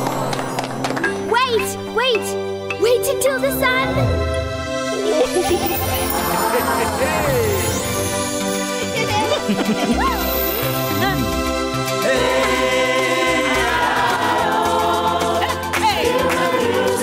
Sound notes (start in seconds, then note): 0.1 applause; 0.1 crowd; 6.8 crowd; 9.2 chuckling